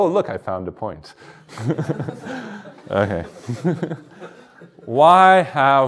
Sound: chuckles

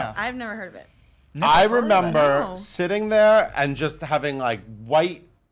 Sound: laughs

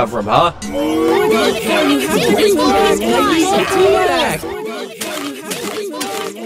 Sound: group complaining

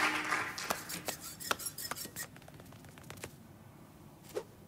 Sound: audience applauding; squeaking

